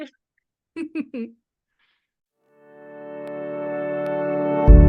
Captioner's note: laughs; instrumental music